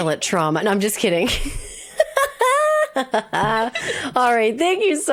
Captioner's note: laughs